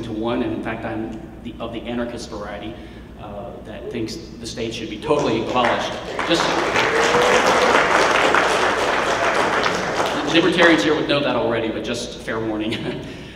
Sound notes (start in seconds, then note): 5.1 clapping